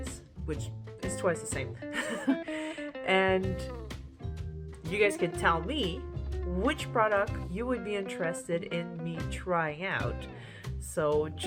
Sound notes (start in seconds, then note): 1.9 laugh